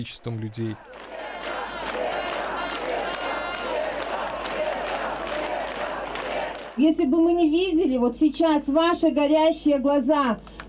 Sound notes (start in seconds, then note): 1.6 people applaud and greet Svetlana Tikhanovskaya